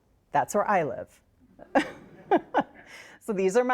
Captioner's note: all laugh